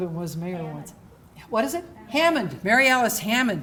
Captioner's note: voiceover